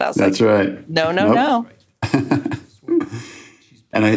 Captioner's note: chuckles